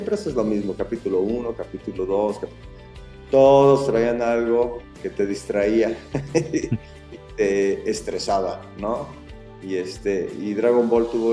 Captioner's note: laughs